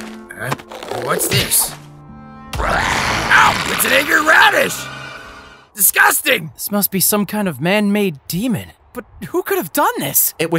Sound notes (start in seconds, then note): 2.6 growls